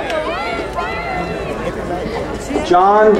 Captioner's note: crowd cheering